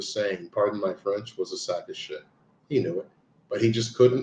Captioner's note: speaks in french